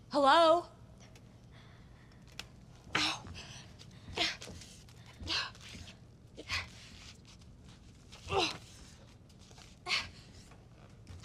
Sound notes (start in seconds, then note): 5.1 groans